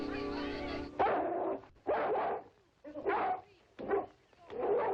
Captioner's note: dog barking